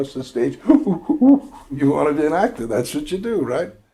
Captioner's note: imitates gorilla